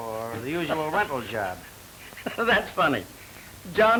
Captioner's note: laughs